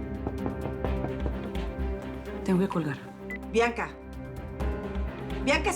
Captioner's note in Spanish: Toques en la puerta